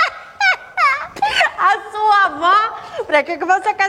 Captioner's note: sarcastic laugh